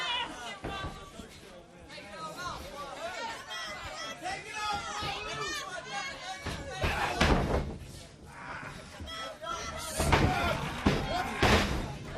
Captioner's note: crowd chatter